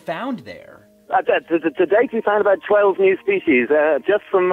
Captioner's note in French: au téléphone